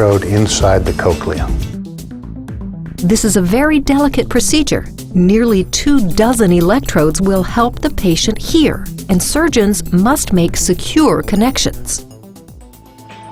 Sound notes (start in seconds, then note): 3.0 voiceover